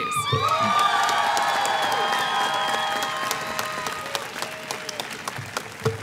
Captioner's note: applause